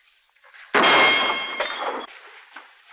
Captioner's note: gunshot